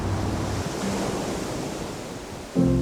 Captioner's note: waves crashing